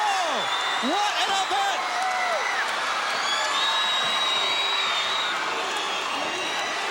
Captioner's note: crowd clamoring